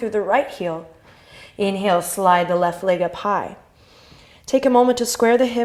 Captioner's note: inhale